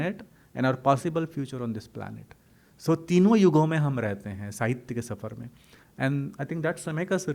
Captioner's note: hindi